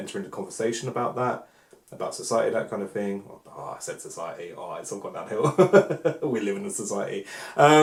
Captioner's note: laughs